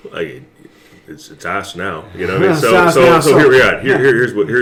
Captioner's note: laughs